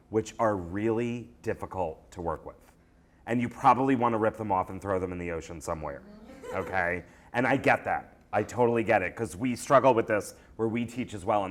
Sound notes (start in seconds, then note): 6.0 voiceover; 6.1 laughter